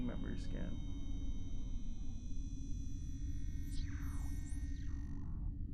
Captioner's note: machine whirs and buzzes